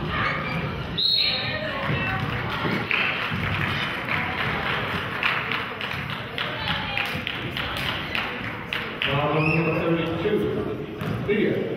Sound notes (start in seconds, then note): 1.0 whistle blows; 2.3 clapping